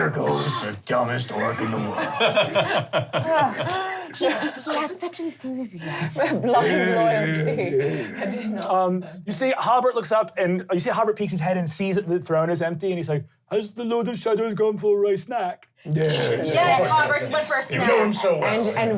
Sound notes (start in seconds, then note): 1.1 laughing